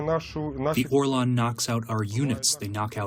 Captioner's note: through translator